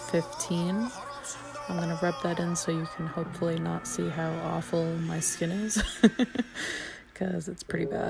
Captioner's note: laughs